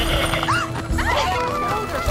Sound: jaunty music; Rapunzel gasping

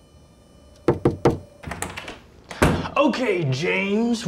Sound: knocking

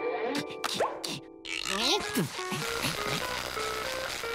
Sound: grunting

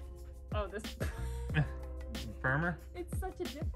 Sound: laughs

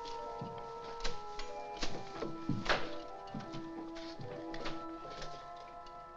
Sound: soft ominous music; sword hacking sounds; soft ominous music

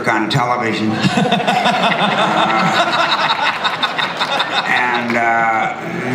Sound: laughter

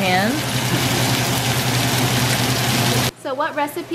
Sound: steak sizzling

